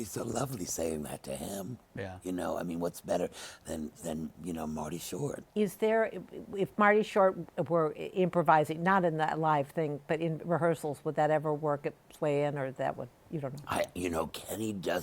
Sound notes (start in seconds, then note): none